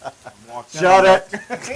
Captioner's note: laugh